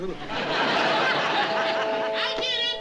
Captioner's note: door bell